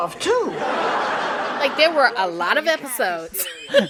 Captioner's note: laughter